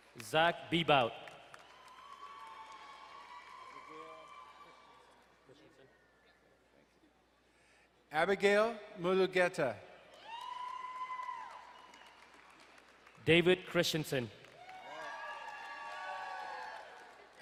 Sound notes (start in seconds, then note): 1.0 crowd cheering and applauding; 10.1 crowd cheering and applauding